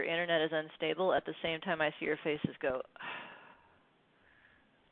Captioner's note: sighs